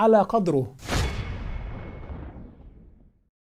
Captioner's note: sound effect